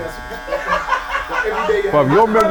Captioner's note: laughing